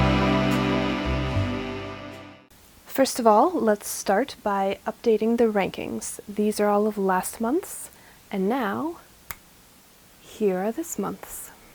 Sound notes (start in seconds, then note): 9.2 snaps